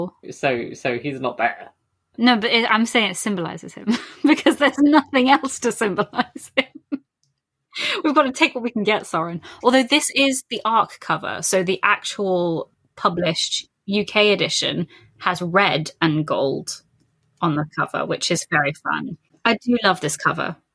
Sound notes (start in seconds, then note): 3.9 laughing